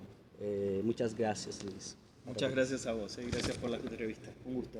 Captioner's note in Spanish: Español